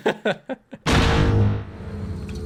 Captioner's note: laughs; seismic charge sound jumpscare